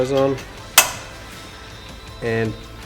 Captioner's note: snapping